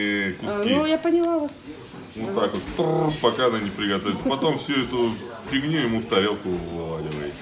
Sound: speaking Russian

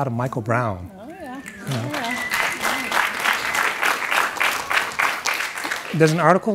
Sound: audience clapping

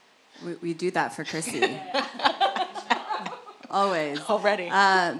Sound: laugh

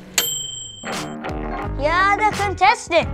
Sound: bell dings

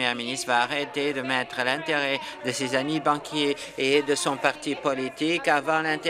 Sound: applause

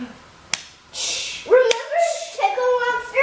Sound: hands smacking

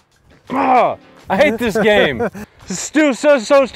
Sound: laughing

